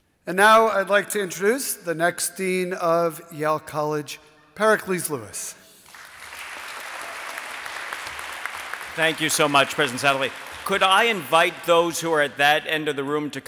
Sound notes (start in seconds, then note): 5.8 audience applauding